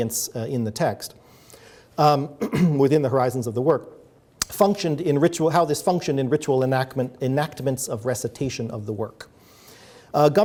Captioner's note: clears throat